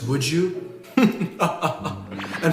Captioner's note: whisper laughs